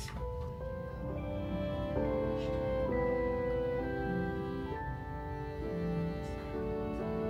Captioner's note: gentle piano music; hands thudding